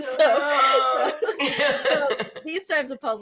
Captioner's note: chuckles